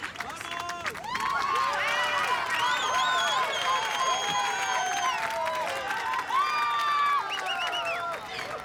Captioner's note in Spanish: Silbidos